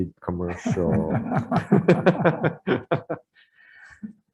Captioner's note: people laugh